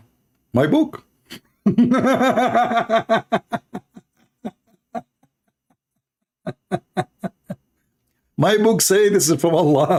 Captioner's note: Ketawa